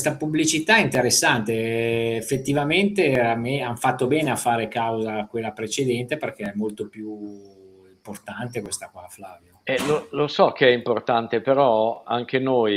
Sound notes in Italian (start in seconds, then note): 9.7 schiarire la voce